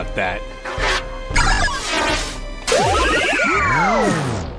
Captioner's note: beeping noises